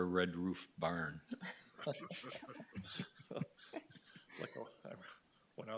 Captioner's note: board members chuckle